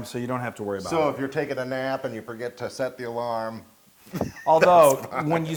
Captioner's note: laugh